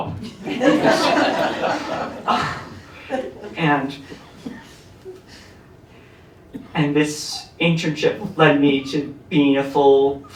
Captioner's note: laughter